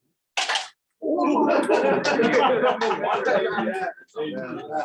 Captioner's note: laughter